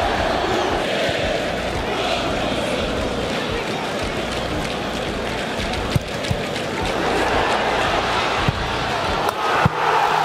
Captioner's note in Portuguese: torcida celebrando; sons da torcida; gritos de gol